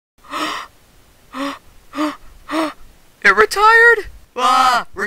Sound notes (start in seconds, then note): 0.0 gasping 4x